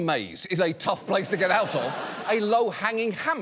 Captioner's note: audience laughs